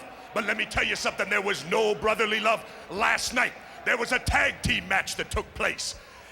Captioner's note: none